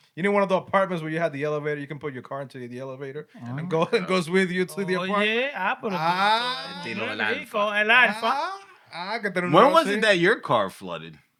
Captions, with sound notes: You need one of the apartments where you have the elevator. You can put your car into the elevator. And it goes with you to the apartment. (Non-english Speech) Where was it that your car flooded?